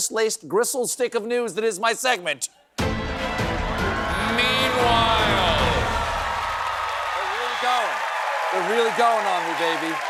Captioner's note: cheers and applause